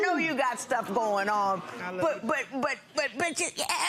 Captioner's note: audience awing